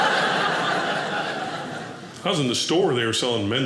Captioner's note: audience laughing